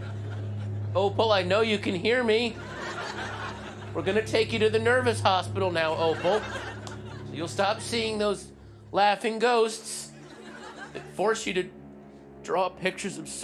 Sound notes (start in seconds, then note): 2.7 audience laughter; 6.7 audience laughter